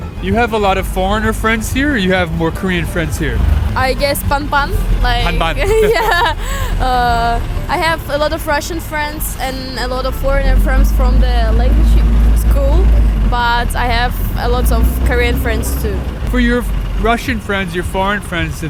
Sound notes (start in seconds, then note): 3.9 speaking in foreign language